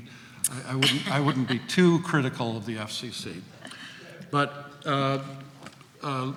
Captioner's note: coughs